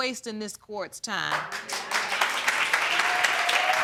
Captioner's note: applause